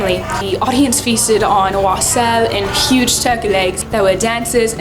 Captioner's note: murmurs